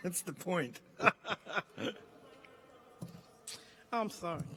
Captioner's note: laughing